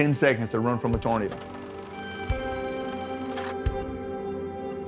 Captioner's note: film reel clacking